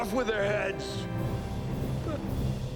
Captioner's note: chuckles